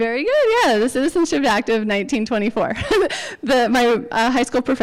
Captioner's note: laughs